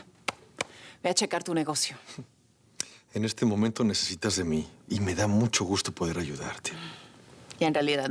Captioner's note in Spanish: Palmadas